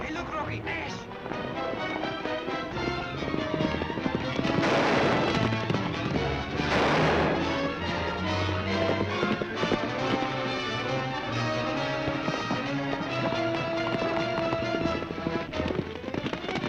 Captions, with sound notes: - Hey look, Rocky, Ash. (dramatic music) (guns firing) (upbeat dramatic music)